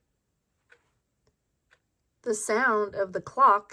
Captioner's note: clock ticks